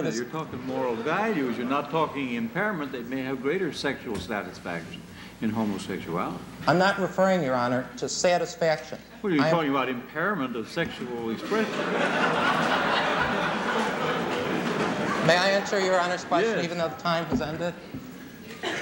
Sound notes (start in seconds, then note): 11.4 laughter